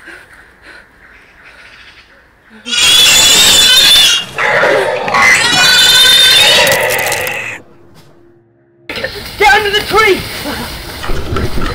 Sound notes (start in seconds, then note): 2.6 screeching; 4.2 growling